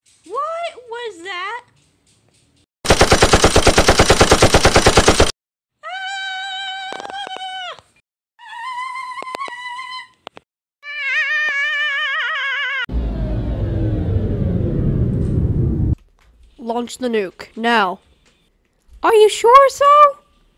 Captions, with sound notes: What.. was that? *heavy machine gun fires* *screams* *screams* *screams* *gun overheats* Launch the nuke. Now. Are you sure sir?